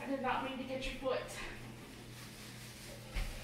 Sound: people talking in background

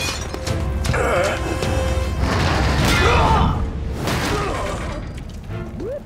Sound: grunting

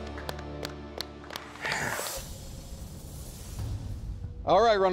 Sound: exhales

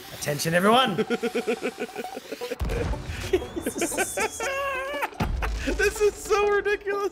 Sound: laugh

